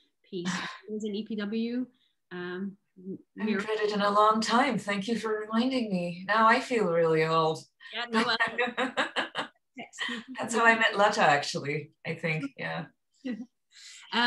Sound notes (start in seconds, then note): 8.1 laughter